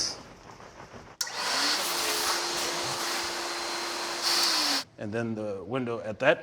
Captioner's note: machine whirring